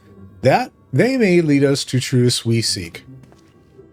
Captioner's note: none